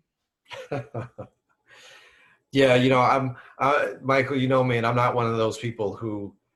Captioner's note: laughs